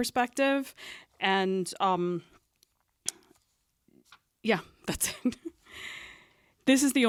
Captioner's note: chuckles